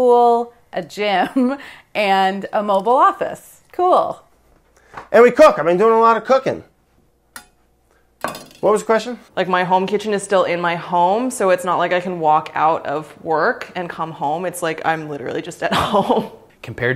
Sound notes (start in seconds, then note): 1.4 laughs; 8.2 metal clanging; 16.4 laughs